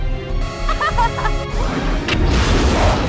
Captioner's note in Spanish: Risas excitadas